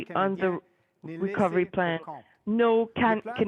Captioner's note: speaking French